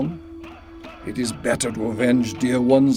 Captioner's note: warriors chanting